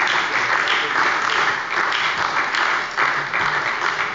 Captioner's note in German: Beifall bei der SPD